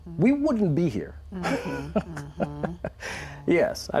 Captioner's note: chuckles